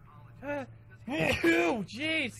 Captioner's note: another sneeze